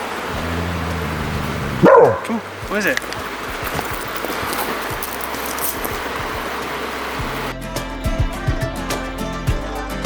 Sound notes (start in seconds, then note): 0.2 River growling